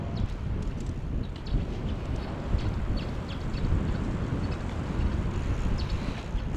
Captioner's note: wind Blowing